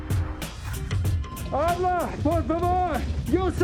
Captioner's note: Jimmy shouting in Spanish, muffled